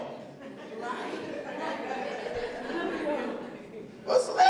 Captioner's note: laughter